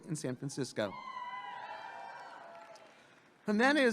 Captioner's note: audience clapping and cheering